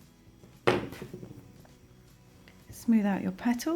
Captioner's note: hook thuds